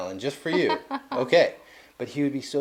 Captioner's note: laughing